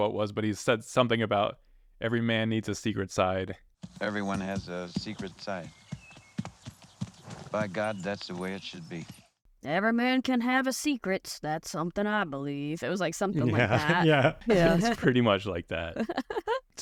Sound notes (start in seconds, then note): 8.3 in a gruff voice; 12.3 normal voice